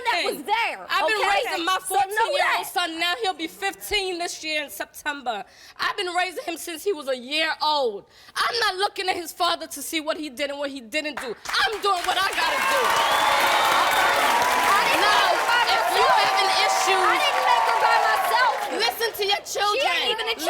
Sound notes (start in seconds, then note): 13.3 applause